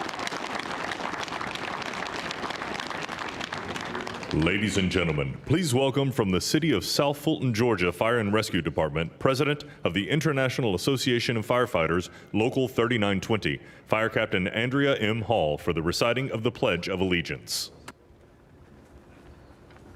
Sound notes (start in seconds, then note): 0.0 applause; 4.0 cheering